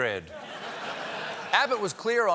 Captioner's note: laughter